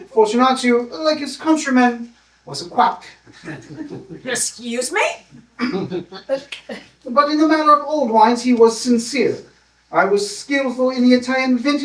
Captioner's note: laughter